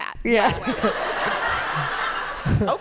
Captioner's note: laughter